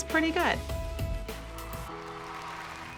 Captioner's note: applause